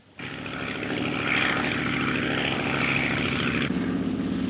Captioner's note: engine droning